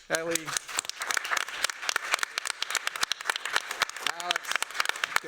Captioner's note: applause